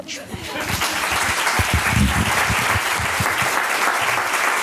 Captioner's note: applause